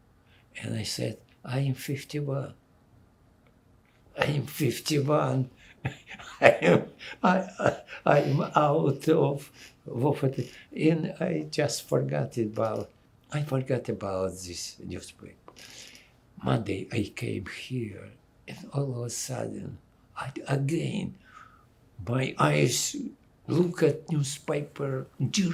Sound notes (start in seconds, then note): 5.5 laughing